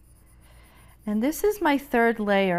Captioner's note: pencil scratching